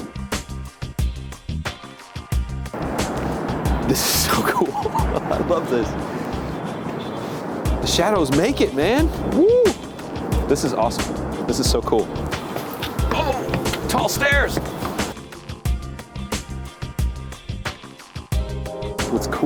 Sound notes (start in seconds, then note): 0.2 chill electronic music; 3.8 laughs loudly; 15.2 chill electronic music